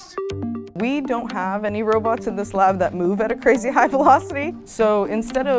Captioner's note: laugh